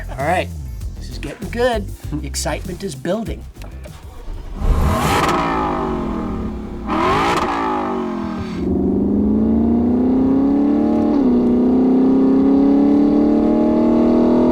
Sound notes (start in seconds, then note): 4.7 engine revs